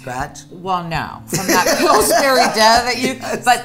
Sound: laughing

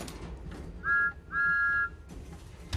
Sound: engine whistles

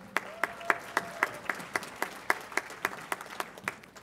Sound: audience applauds

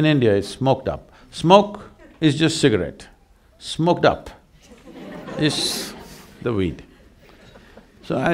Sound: laughter

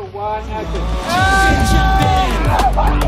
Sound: yells; upbeat music

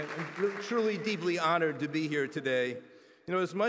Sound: applause

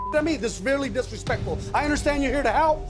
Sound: beep

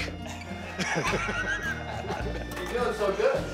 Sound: all laughing

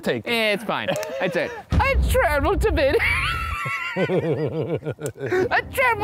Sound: laughs

